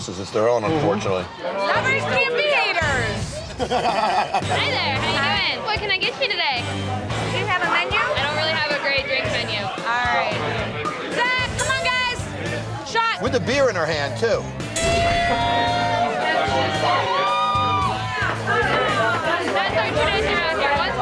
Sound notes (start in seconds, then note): 14.8 cheering